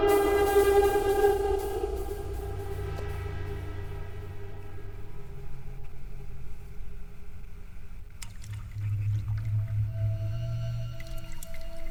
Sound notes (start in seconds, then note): 8.0 water dripping